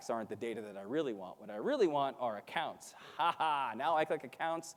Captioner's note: laughs